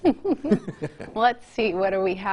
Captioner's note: laughs loudly